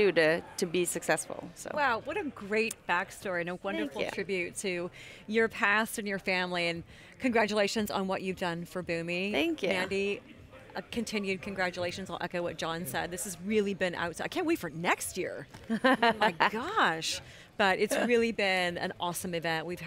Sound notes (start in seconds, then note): 15.6 laughter